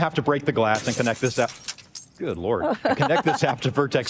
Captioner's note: sound of glass shattering